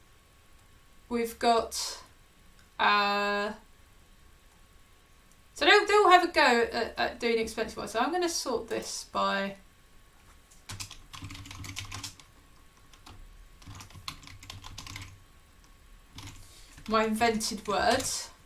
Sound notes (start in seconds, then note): 10.6 keyboard clicking